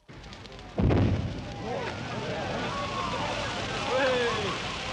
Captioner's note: villagers shouting